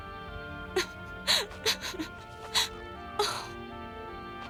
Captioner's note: sobs, gasps